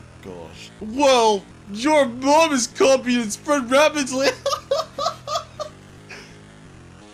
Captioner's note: laughs